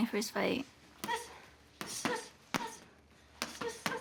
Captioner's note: grunting